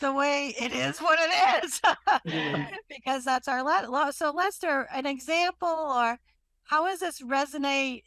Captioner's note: laughs